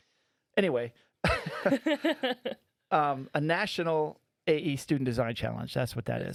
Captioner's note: laughing